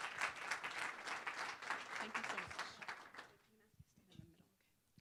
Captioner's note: applause